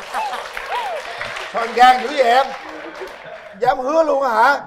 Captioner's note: laughter; applause